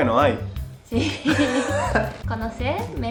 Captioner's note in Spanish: Risas